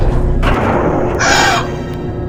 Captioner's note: gasp